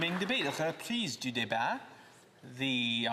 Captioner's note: some Applause